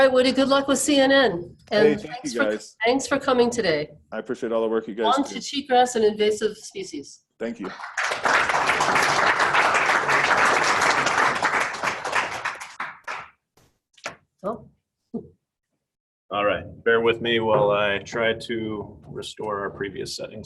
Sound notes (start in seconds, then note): 7.5 applause